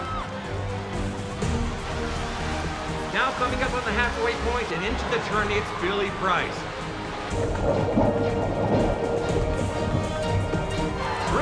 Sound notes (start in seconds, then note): 0.1 adventurous music; 7.6 water gurgles